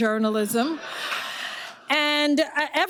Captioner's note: audience laughing